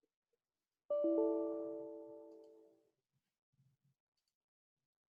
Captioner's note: notification rings